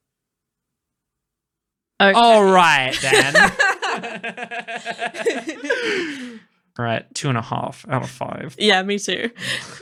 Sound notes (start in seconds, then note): 0.7 spiteful silence; 2.8 laughing; 5.7 grudging